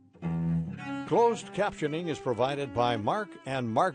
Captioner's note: voiceover